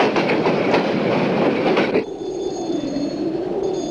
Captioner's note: ringing